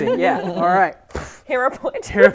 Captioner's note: poof